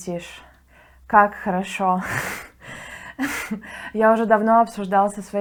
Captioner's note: laughs